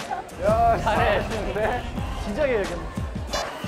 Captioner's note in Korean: 부글부글